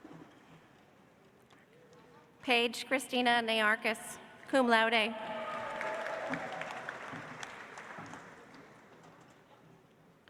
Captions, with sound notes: Paige Christina Niarchos, cum laude. (audience applauds)